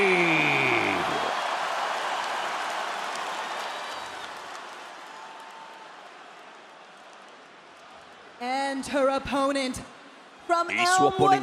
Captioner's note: applause